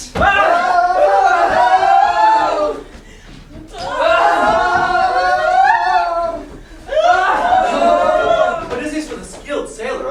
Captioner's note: sailors yelling